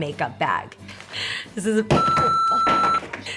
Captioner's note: beeps